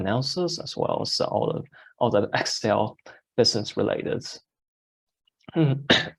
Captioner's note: coughs